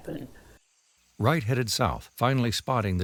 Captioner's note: crickets chirping